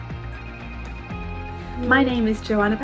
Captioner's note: phone rings